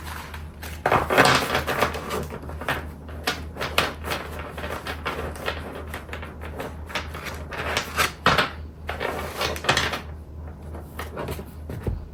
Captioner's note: shuffle